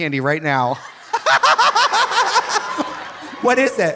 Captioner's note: audience laughing; Trixie cackles